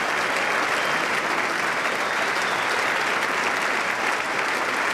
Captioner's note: applause